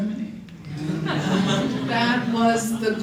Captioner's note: laughter